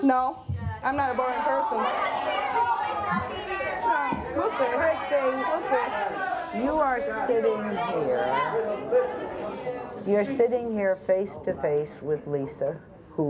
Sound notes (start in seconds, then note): 1.2 audience yells